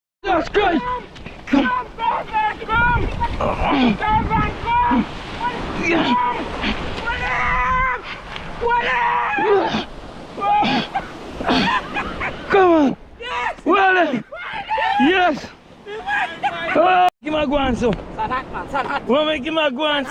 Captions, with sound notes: That's good. [screaming] [laughter] Come on. Yes.